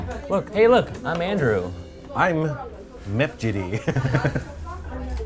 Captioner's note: laughs